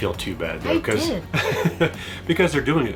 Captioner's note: laughing